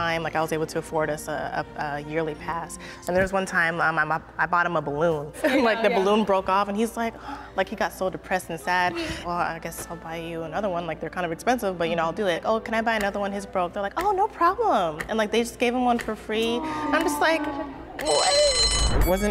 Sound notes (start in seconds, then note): 5.5 laughing; 7.3 sighing; 16.4 all cooing; 18.0 bell ringing